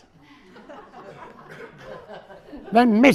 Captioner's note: audience laughing